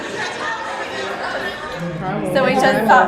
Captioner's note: crowd chatter